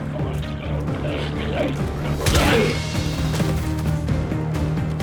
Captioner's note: intense music continues; glowzies growling